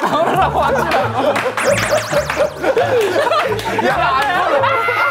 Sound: laughing

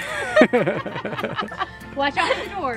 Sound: laughs

